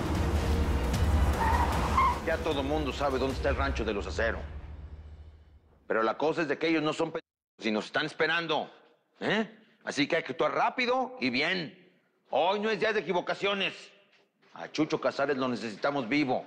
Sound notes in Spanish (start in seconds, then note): 3.4 Chirrido de gomas